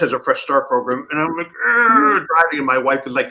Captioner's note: exasperated groan